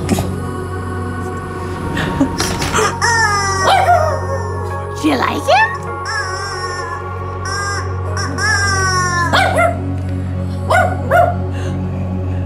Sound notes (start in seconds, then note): 2.6 honking; 3.6 howling; 5.9 honking; 9.2 dog barking; 11.4 growling